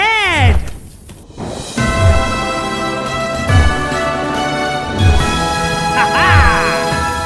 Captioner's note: bicycle whooshing; uptempo dramatic music; laughing